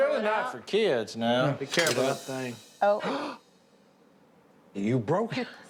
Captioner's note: gasps